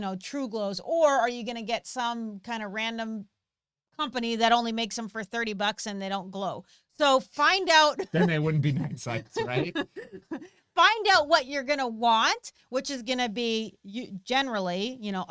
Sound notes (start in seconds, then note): 9.4 laughs